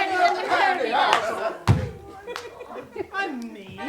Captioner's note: witch stamps loudly on the floor, followed by silence